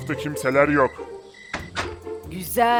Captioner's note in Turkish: Kapı kapanma sesi